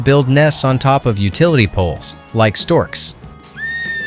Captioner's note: instrumental music; bird squawks